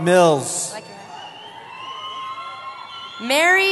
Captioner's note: cheering